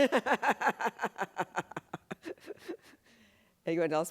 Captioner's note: laughs